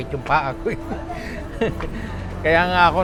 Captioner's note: giggles